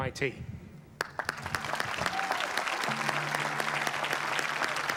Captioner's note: applause